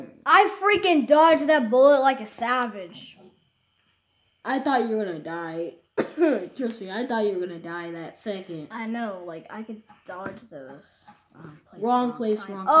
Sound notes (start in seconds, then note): 5.9 coughs